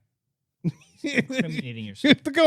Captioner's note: laughing